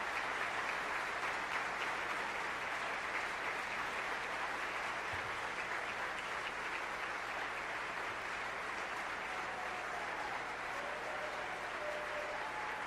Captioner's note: applause